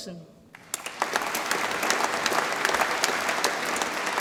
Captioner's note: audience applauds